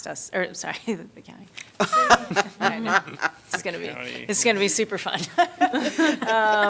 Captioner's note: laughter